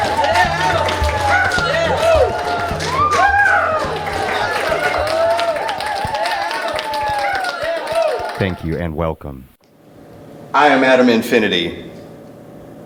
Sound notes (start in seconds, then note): 5.1 crowd cheers